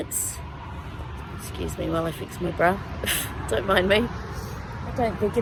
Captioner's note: scoffs